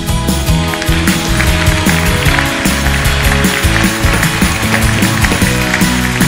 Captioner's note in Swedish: applåder och musik